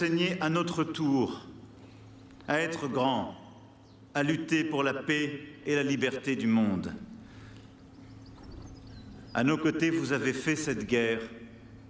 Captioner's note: speaking french